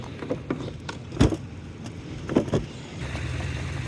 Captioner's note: clunk & Thump